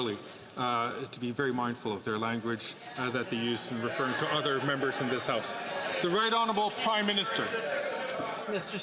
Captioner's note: some Applause